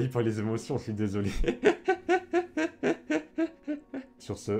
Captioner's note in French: Rires